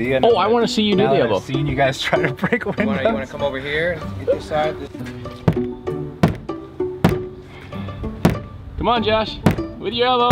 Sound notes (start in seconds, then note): 6.2 elbow thumping